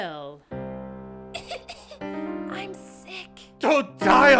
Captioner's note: cough cough